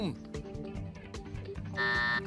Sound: timer

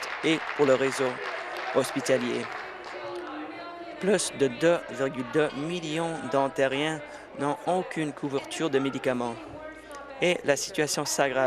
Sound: applause

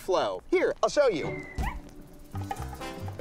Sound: dog yelps

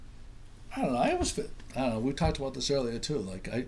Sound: voiceover

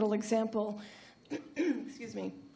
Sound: coughs

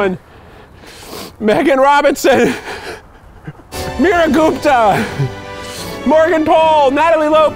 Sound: laughing

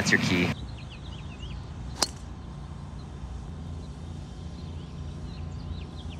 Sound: birds chirping; golf club thuds

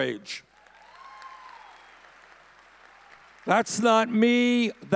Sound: audience cheering

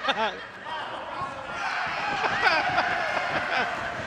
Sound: laughing

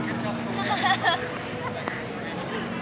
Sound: hahahahahaha

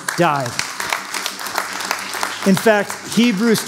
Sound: applause

